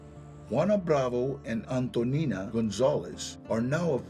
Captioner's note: in English